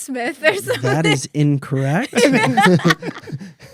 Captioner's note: laughter